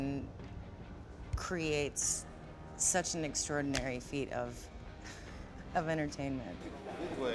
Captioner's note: chuckles